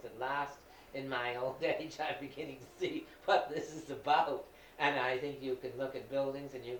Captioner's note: laughing